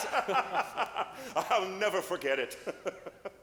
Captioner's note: laughs